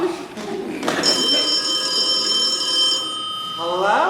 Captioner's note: phone rings